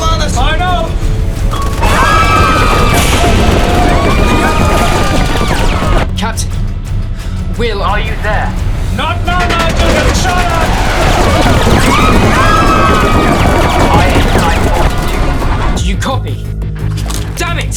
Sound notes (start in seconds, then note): 1.7 crying/panicked/chatter; 11.5 shooting/screaming